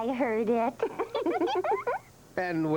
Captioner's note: all giggling